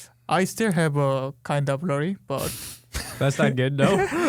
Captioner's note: laughing